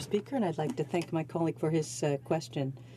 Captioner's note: speaking French